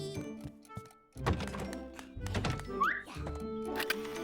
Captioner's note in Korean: 문 여닫는 소리